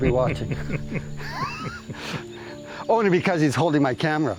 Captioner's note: chuckles